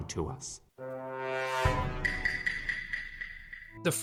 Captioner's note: Among Us imposter sound effect